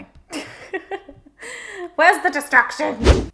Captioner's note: laughs